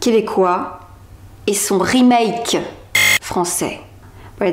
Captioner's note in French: beep